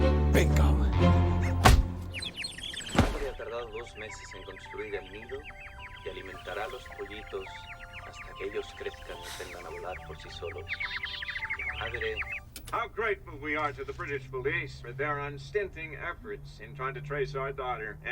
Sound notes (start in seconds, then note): 1.2 birds chirping; 2.8 man speaking Spanish on TV